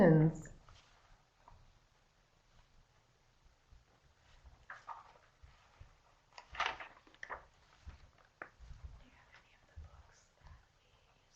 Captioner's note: no sound - waiting for questions